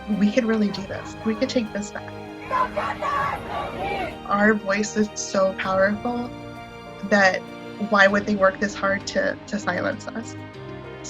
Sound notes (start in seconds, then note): 2.3 crowd